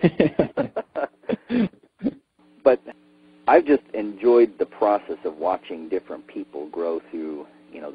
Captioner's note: laughs